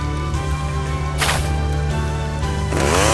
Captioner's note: accelerates